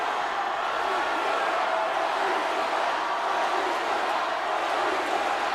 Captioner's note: crowd chanting "Batista"